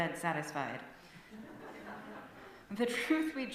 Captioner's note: light laughter